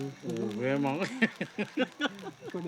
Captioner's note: laughter